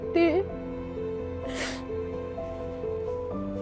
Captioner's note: sobs